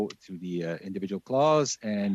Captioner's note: speaking French